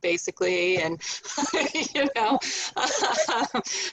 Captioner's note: laughing